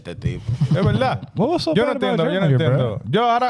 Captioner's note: speaking In Foreign Language